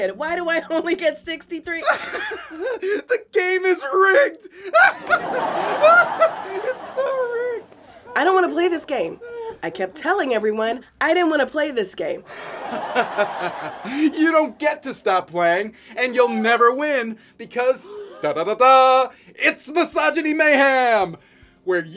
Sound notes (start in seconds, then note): 4.6 laughter; 12.3 laughter